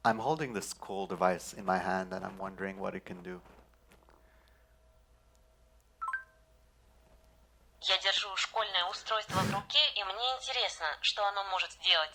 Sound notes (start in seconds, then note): 6.0 ping; 8.7 speaking russian